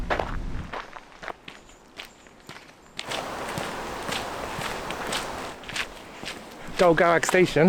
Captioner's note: footsteps